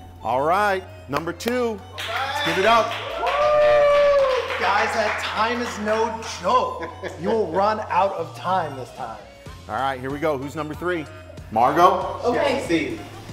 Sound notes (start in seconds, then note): 3.5 competitors cheering and clapping